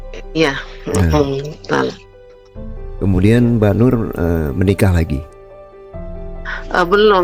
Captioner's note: berdehem